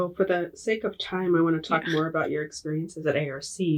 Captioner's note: laughing